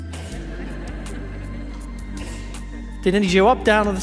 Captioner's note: audience laughs